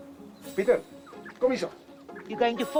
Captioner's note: speaks native language